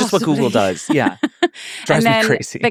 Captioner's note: laughing